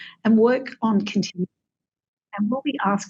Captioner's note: audio cuts out